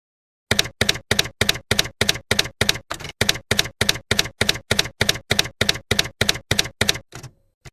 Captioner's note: typewriter keys clacking